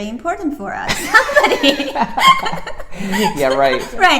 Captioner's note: both laugh